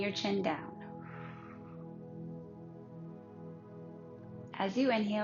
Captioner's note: pursed lips breathing